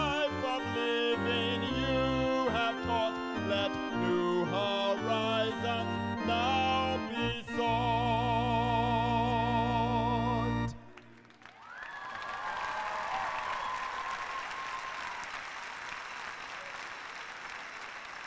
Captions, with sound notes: TAUGHT; LET NEW HORIZONS NOW BE SOUGHT! (CHEERS AND APPLAUSE)